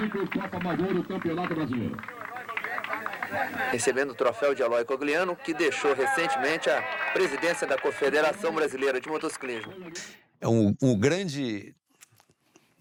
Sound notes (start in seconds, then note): 2.2 applause